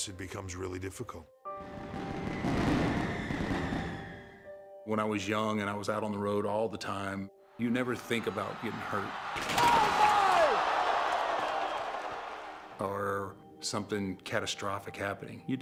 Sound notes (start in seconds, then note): 1.6 pyrotechnics exploding; 11.2 crowd roaring